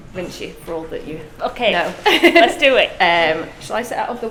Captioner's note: laughs